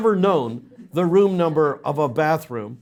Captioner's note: audience laughs